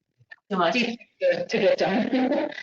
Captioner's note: distorted audio; laughs